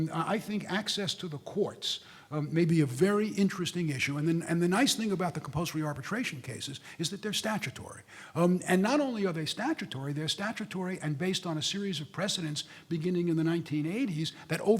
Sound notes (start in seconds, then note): none